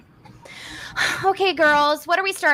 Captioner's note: exhales